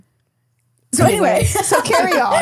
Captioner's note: laughing